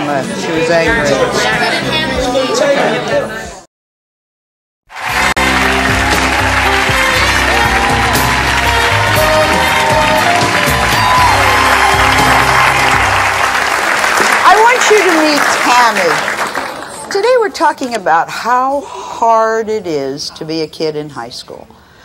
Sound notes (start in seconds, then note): 5.3 audience claps